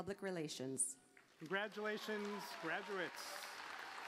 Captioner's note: applause